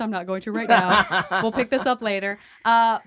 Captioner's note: laughing